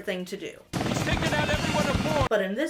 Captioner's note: blades whirring